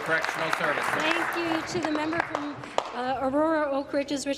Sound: applause

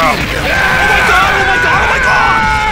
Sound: screams

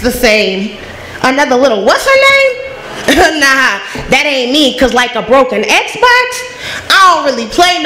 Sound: laughs

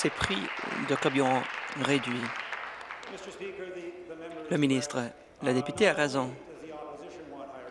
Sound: applause

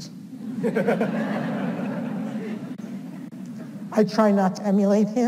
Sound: audience laughs

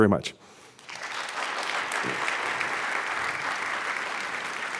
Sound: audience applauds

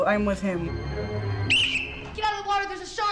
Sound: whistle

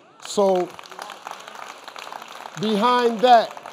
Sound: audience applauding

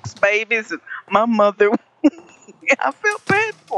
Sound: laughs

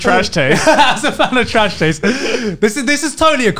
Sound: laughs; men laughing

